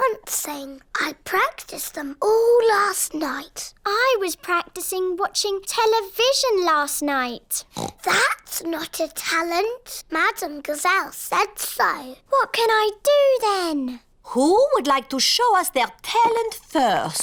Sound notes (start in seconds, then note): 7.7 oinks